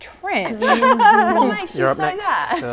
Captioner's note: laughing